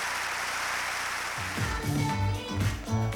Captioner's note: cheers and applause